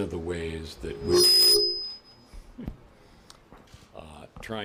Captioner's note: microphone feedback